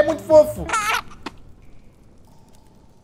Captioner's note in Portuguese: bebê ri